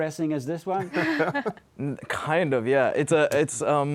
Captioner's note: laughter